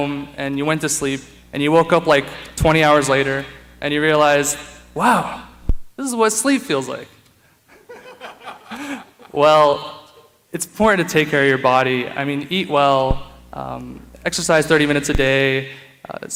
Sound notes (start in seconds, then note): 7.7 laughter